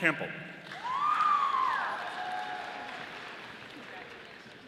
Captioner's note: audience applauding